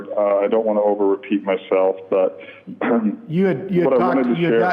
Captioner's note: clearing throat